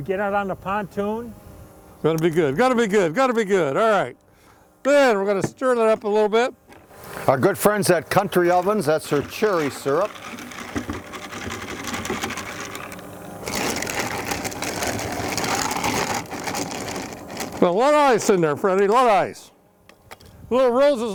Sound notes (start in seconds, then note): 12.4 ice rattling